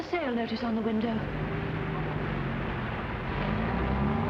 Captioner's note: traffic humming